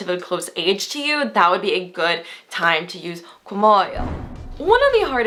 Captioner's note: foreign language